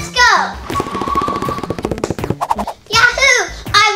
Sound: footsteps thudding

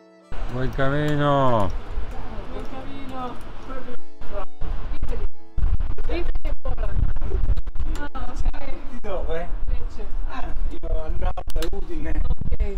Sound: speaking foreign language

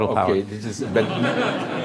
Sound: laughter

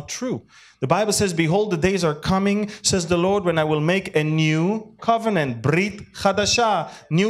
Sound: Hebrew

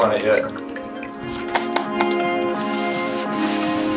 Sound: mop swishing

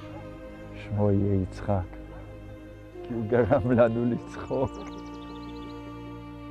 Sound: speaking in Hebrew

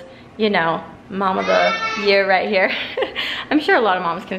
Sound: laugh

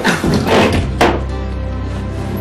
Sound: cabinet creaking

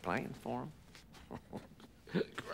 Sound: chuckling

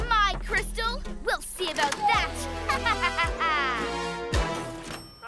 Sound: evil laugh

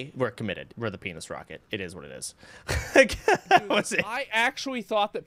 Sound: laughter

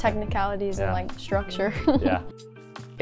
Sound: chuckles

